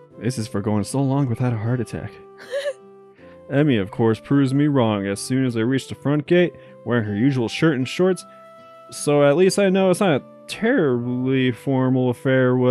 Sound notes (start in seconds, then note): 2.4 giggles